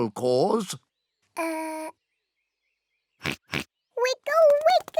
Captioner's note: oinks